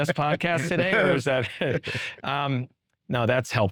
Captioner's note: chuckling